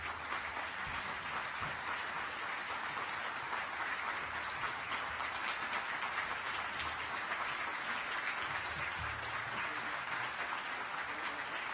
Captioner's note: applause